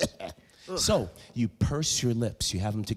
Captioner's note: loud coughing